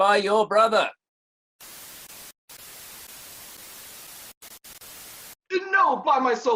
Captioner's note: static noises